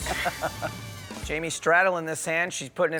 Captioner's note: laughs